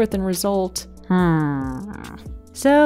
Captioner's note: hrmmmm